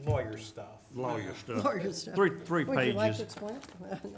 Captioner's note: chuckling